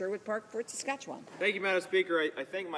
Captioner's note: speaking French